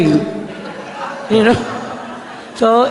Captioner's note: laughter